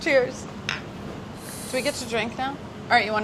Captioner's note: glasses clinking